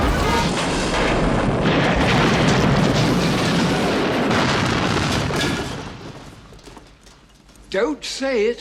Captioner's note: boom